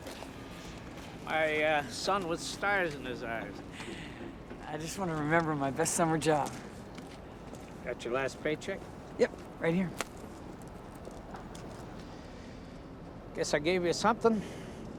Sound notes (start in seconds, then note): none